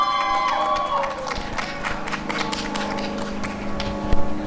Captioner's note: applause and cheering